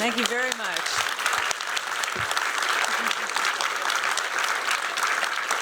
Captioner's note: applause